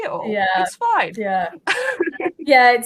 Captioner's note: laughs